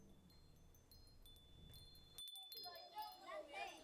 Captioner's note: windchimes